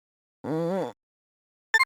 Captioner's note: stirred groan